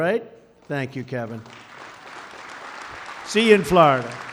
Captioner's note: applause